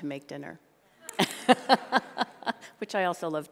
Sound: laughter

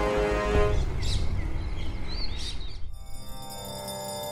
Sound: birds chirping

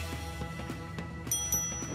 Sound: chuckles; bell dings

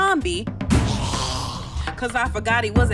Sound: snarls

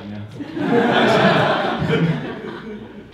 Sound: audience laughing

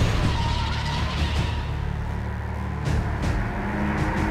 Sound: tires screeching

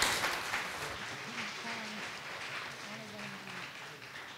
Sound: audience applause

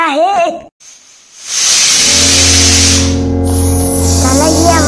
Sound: shouting; pressure cooker Whistle

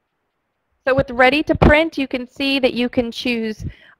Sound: voiceover

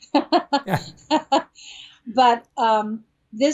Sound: Steven laughs; laughs

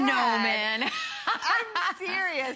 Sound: laughter

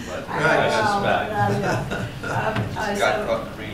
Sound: laughter

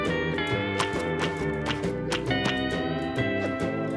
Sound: tentacles squish

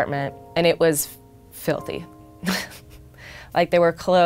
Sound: chuckles

